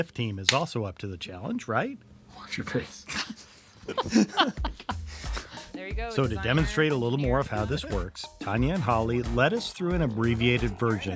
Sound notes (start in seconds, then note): 3.1 laugh